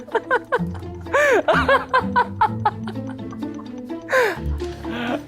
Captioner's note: خنده ی بلند